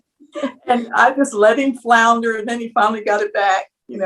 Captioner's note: laugh